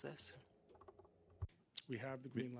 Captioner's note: speaking French